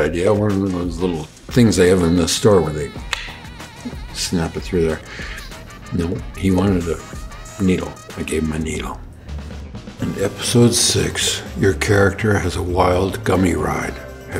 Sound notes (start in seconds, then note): 3.0 clicks